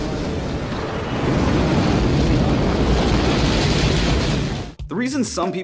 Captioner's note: explosion sounds